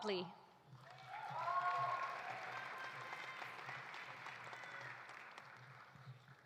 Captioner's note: audience applauding; audience cheering